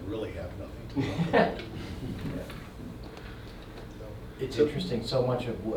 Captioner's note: attendees laughing